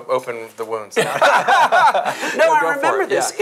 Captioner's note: laughing